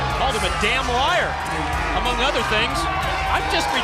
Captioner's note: crowd cheering